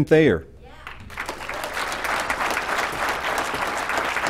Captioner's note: applause